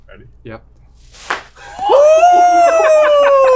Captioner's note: tortilla slaps